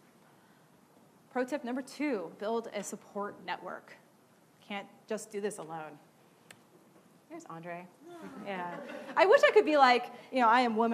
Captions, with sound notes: Pro tip number two, build a support network. You can't just do this alone. There's Andre. (audience awwing) I wish I could be like, I am woman!